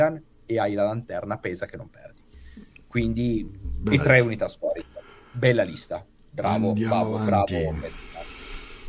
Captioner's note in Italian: schiarire la voce